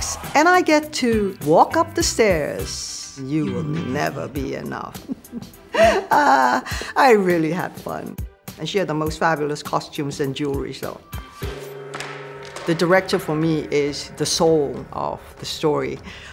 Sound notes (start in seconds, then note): 5.0 laughs